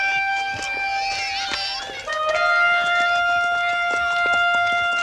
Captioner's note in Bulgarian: аплодисменти